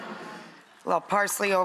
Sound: audience sighs

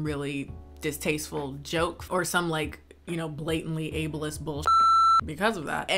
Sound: beep

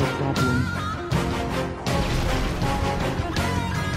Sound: explosion

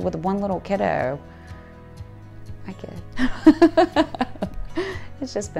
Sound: laughter

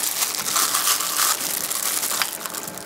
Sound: the glove crackles

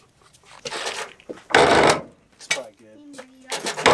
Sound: creaking

